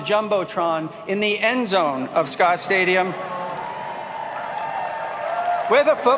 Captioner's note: applauding